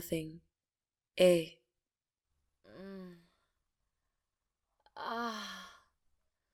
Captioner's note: moaning pleasurably